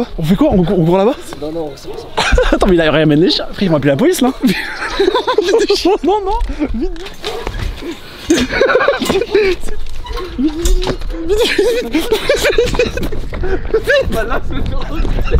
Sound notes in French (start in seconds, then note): 4.4 rires; 8.3 rire